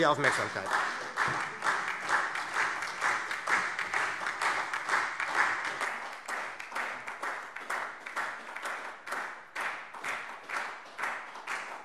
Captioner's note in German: Anhaltender Beifall SPD und Freie Demokraten